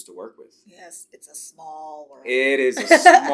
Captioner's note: laughs